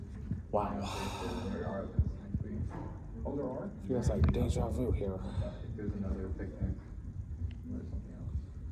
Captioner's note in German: normale Stimme